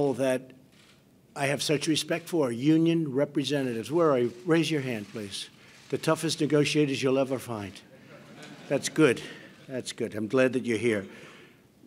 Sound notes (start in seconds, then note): 7.9 laughter